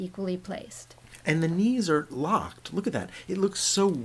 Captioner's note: voiceover